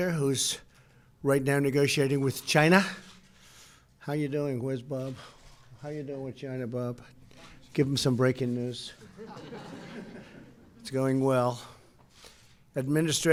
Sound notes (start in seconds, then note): 9.0 laughter